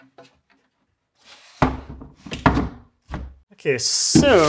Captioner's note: wooden frame thudding